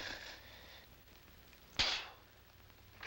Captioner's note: spits